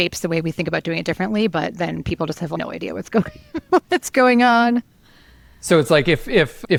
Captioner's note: laughs